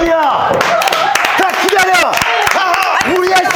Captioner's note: audiences going crazy